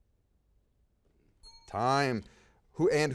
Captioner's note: bell rings